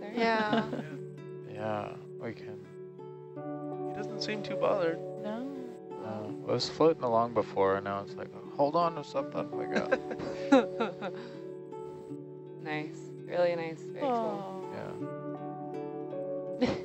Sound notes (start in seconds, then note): 9.5 man laughs